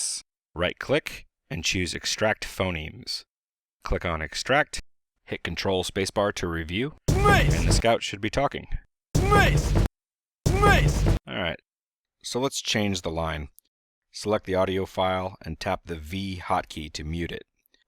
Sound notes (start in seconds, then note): 8.7 game dialog sounds